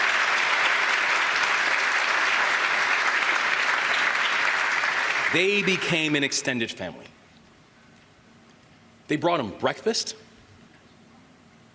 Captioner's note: applause